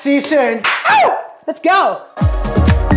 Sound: claps and whoops

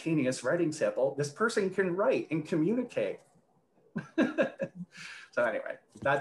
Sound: laughs

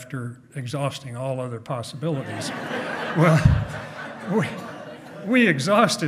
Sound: hearty laughing

